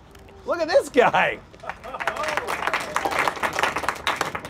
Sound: applause

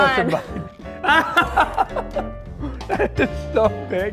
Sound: laughing

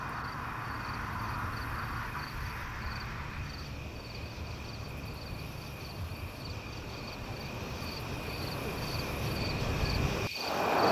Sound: crickets chirp

